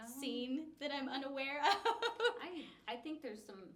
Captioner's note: laughs